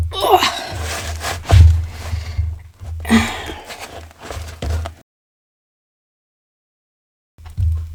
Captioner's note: sounds of exertion